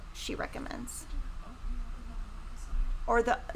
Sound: background whispers

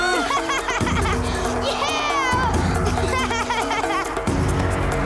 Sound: laughing

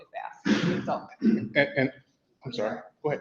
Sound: clears throat

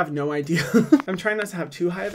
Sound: laughing

